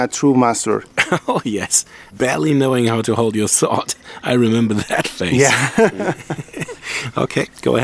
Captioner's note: laughing